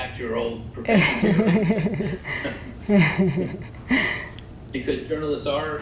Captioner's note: laugh